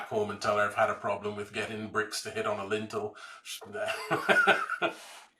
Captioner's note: laughs